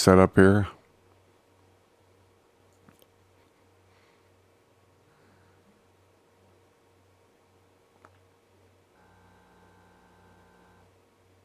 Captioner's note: silence